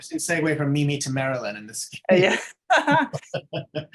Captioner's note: both laughing